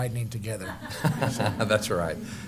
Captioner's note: laughter